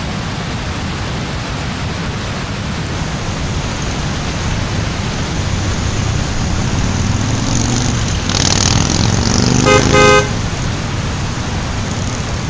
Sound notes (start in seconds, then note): 1.3 car Honks; 2.7 sound of rain and thunder